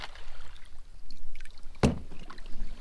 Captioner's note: clunk